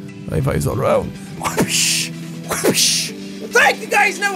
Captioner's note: whapshh!